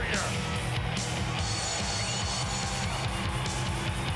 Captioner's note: crowd cheering; hard rock music continues